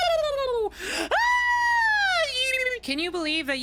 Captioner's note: screaming Followed By More Gibberish